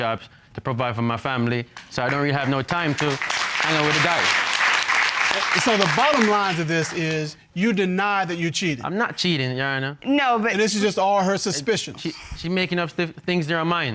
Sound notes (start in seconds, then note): 4.1 applause